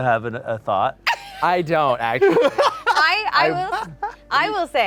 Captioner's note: laughing